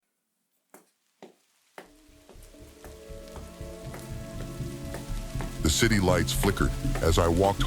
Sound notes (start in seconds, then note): 5.1 footsteps